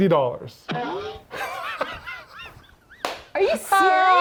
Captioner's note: laughs